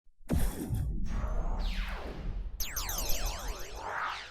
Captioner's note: laser sound effects